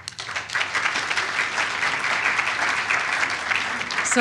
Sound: applause

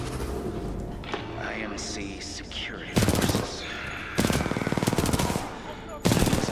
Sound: sigh

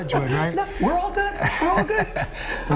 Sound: laughter

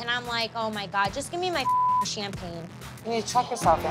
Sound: beep

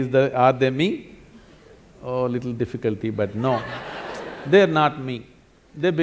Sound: laughter

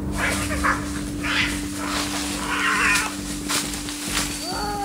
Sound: cats yowl

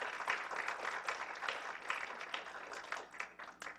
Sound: applause

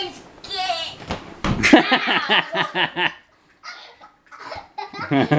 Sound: laughs

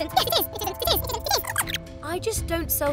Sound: rapid garbled squeaks

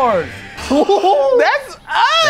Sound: both gasping

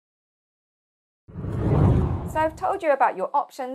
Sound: screen whooshing

